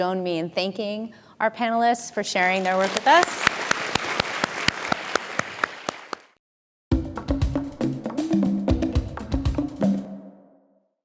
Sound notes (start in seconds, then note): 2.6 audience applauding; 6.9 upbeat music